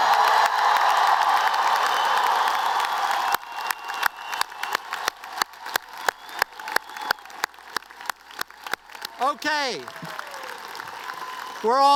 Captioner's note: cheers and applause